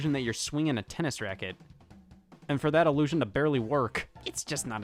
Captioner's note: none